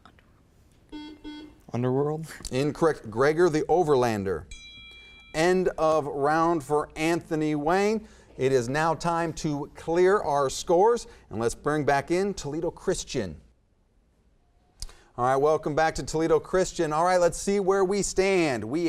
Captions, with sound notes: - Underworld. (buzzer beeps) - Underworld. - Incorrect, Gregor the Overlander. (timer dings) End of round for Anthony Wayne, it is now time to clear our scores, and let's bring back in Toledo Christian. Alright, welcome back to Toledo Christian. Alright, let's see where we stand,